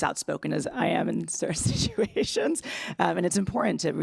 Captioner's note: laughs